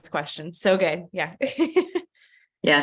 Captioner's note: laughter